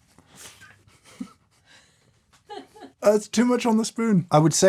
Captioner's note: laughing